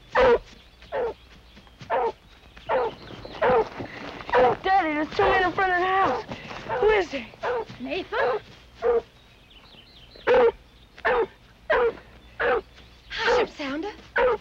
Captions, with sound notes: >> Daddy, there's two men in front of the house. Who is that? >> Nathan. [Barking] >> Hush up, Sounder.